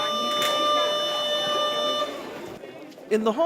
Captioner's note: school bell rings